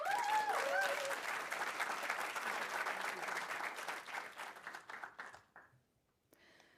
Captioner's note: audience cheering; audience applauding